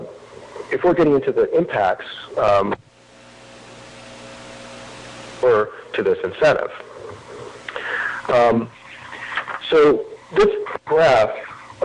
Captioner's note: audio cutting in/out; audio cutting in/out